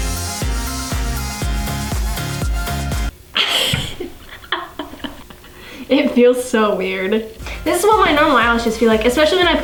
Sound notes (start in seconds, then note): 3.4 laughing